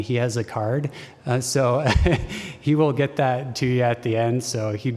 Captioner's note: laughter